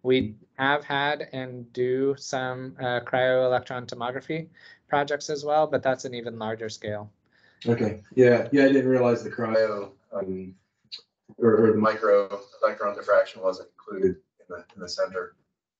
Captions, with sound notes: We have had and do some cryo-electron tomography projects as well, but that's an even larger scale. - Okay, yeah. Yeah, I didn't realize the cryo (audio distortion). Or the micro, the background defraction was included in the center.